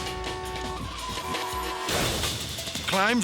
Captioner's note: horns honking